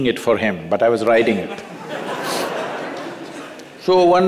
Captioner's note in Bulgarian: Смях